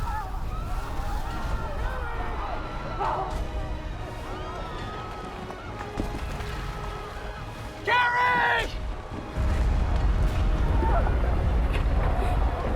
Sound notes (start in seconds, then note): 9.3 explosion